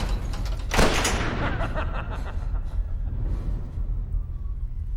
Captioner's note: evil laughter